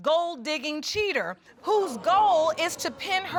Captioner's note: audience gasps